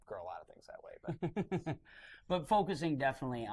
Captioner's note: laughter